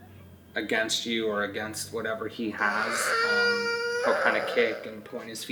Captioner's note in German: DJ weint